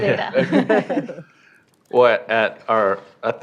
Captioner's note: laughter